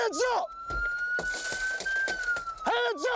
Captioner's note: siren wailing